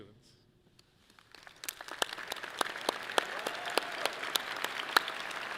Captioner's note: audience clapping loudly